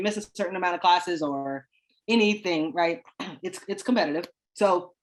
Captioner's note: clears throat